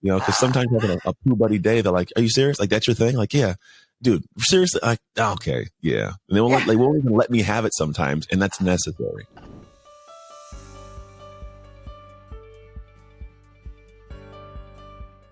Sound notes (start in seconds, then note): 6.5 laughs; 9.6 gentle piano music